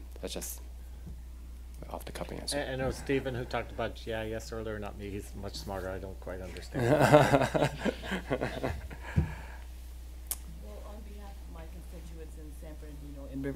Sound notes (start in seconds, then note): 6.6 laughing